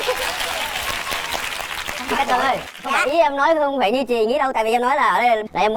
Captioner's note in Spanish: Aplaudir